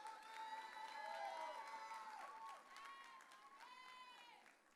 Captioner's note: audience cheering